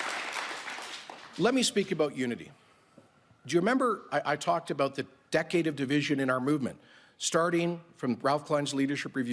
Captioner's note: cheering and Applause